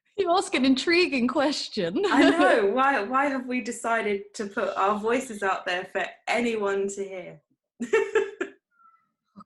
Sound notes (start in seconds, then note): 7.8 giggles